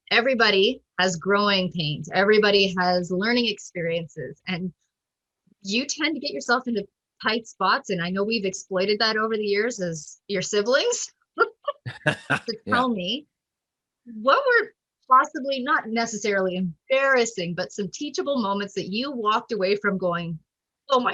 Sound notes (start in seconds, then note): 11.8 laughs